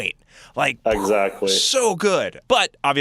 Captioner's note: poof